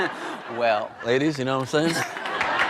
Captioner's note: laughs